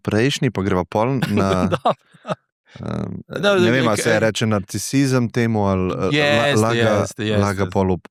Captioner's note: laughs